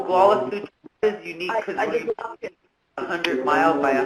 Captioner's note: participants murmuring